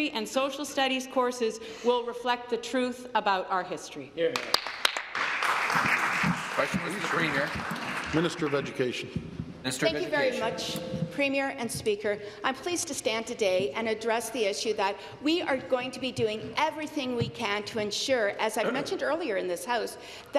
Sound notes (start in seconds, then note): 7.8 applause